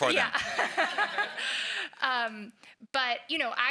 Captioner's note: laughs